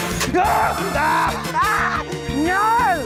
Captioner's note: all scream